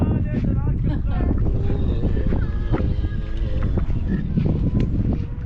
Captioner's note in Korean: 고통스럽게 들리는 낙타 소리